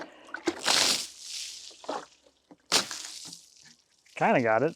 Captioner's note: water splashing